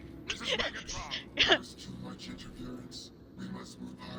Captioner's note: laughs